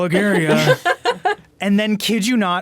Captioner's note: laughing